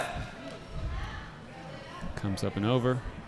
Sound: chattering

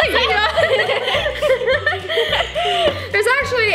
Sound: laughter

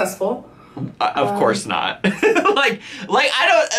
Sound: laughs

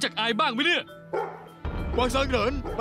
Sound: dog barking

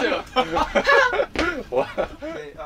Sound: haha

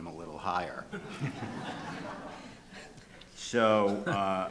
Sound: audience chuckling

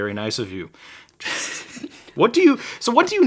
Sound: laughing

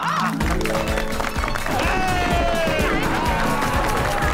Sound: applauding and cheering

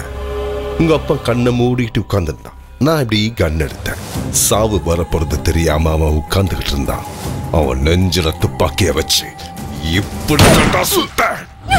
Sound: gunshot

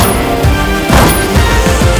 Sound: gun Fire

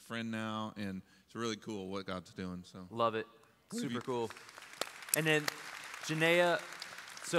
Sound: applause

